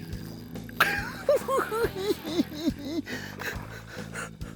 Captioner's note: cackling